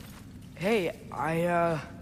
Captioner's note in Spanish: tartamudea